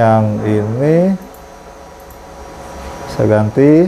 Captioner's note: clicking noise